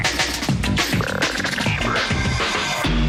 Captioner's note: croaking